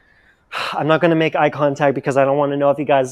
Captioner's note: sigh